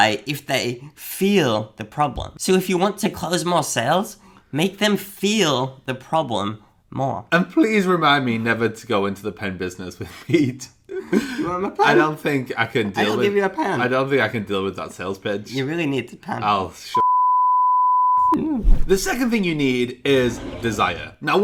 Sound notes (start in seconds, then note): 10.9 laughs; 17.0 beep